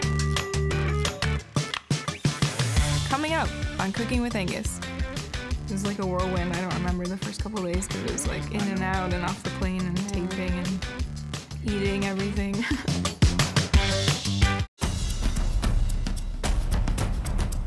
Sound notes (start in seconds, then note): 0.2 upbeat funky music; 12.6 laughing; 13.1 upbeat funky music; 14.8 exciting drum music